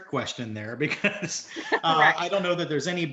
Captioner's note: chuckles